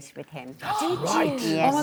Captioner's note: gasps